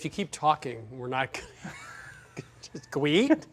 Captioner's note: laughing